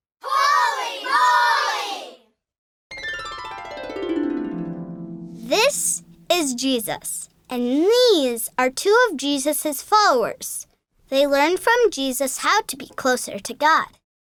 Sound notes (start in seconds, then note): 2.9 harp playing; 5.6 voiceover